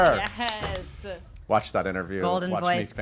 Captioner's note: cheers